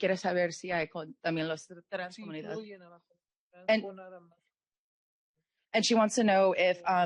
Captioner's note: speaking Spanish